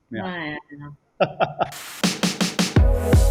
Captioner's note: laughter